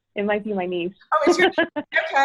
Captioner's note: laughs